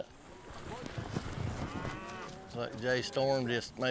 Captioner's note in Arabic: ضربات الحوافر، خوار الأبقار